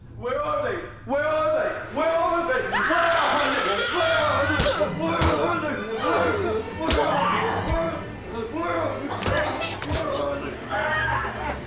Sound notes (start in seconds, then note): 2.7 Abby screams; 2.7 intruder punches; 3.9 intruder yells and punches; 5.0 Abby screams; 9.1 Abby gurgles